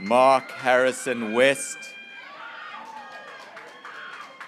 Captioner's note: graduates cheering